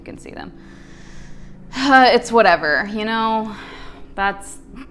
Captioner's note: deep sigh